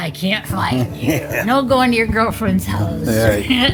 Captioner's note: Alexa chimes